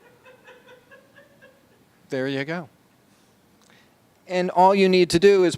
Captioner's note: laughter